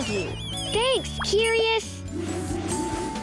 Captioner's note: curious whistling; air whooshing